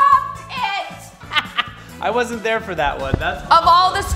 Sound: laughs

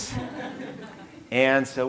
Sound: audience laughing

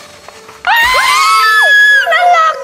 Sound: scream!!

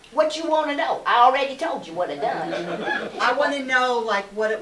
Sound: laughter

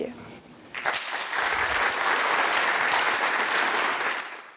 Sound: audience applause

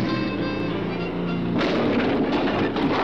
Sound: car crashes

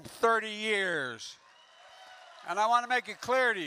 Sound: applause

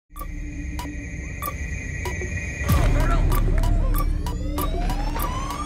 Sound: clock ticking

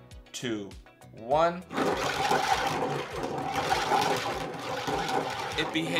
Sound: steel marbles rolling

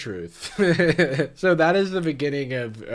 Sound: laughs

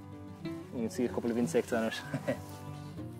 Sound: background chat and laughter

